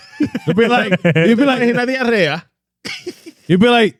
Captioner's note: laughing; speaking In Foreign Language